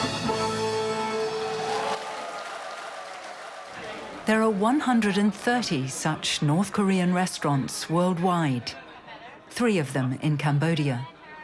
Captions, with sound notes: (people cheering) There are 130 such North Korean restaurants worldwide, three of them in Cambodia.